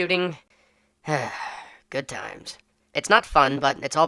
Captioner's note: sigh